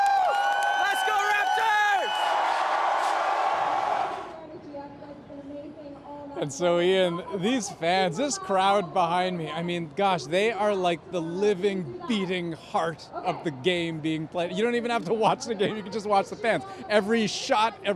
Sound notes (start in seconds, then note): 3.0 cheers and Applause